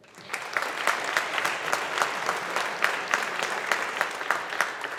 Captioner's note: audience applauding